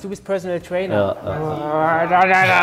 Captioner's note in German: grummelt